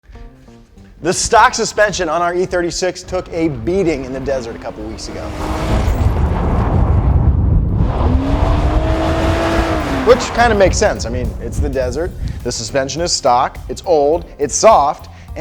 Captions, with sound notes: - The stock suspension on our E36 took a beating in the desert, a couple of weeks ago. (car engine revving) Which kind of makes sense, I mean, it's the desert, the suspension is stock, it's old, it's soft